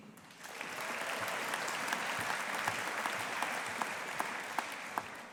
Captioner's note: audience applauding